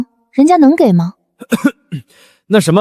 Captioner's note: cough cough